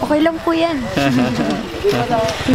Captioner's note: laughs